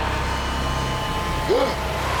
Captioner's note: John gasping